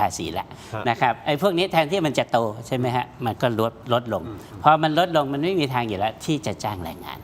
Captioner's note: sigh